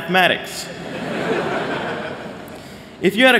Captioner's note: laughter